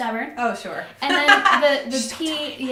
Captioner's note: laughs